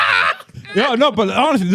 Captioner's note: all Laughing